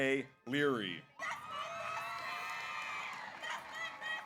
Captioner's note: audience cheers; audience applauds